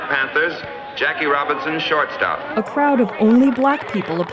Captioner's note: crowd clapping